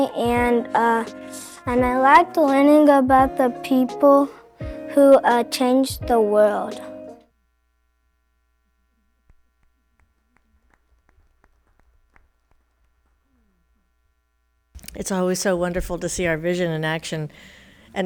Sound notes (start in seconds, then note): 12.3 attendees applauding